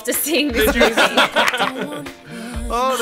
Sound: laugh

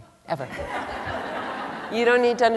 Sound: laughter

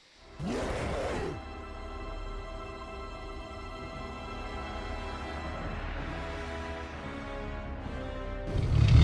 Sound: roar

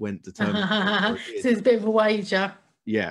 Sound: laughs

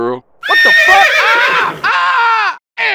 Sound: CJ Pain Sounds

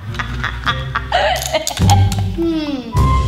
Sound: laughs

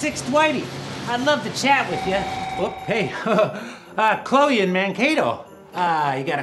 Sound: phone rings

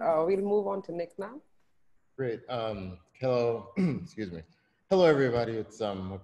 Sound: clears throat

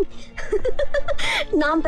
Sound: laughs

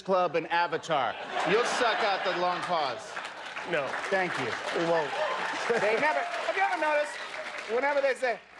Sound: laughter

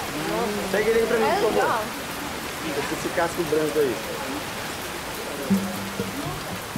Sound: all speaking in foreign language

